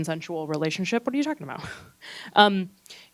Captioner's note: chortles